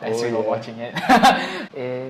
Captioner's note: laughter